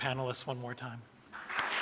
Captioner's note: applause